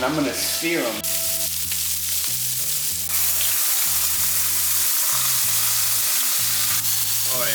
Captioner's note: sizzling